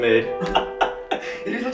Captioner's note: laughs